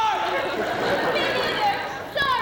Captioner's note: laughter